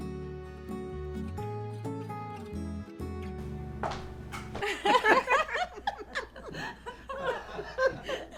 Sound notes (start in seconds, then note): 4.5 laughter